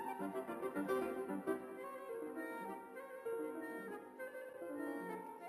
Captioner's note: none